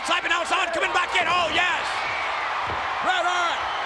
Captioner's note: spectators cheering